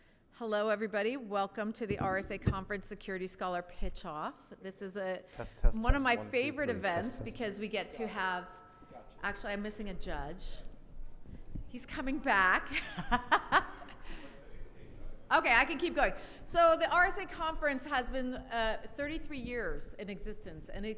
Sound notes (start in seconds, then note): 12.6 laughs